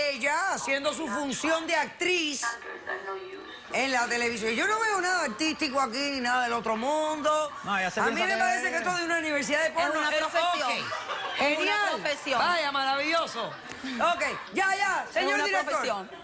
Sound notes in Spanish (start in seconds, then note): 10.5 risas del público